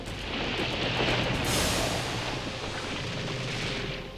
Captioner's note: sinkhole creaking